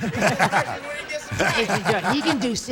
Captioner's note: laughter